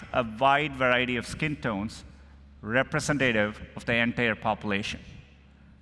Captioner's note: none